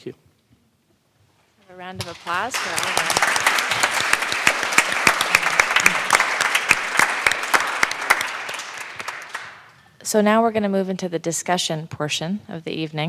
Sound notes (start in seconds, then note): 3.8 applause